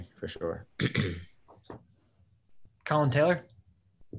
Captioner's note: throat clearing